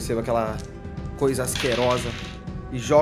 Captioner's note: dice sounds